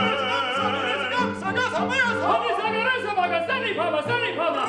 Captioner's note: shouting in Sanskrit